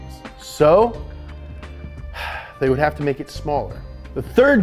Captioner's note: sighs